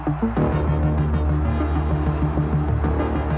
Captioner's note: crowd roaring